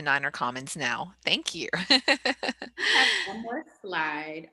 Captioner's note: laughter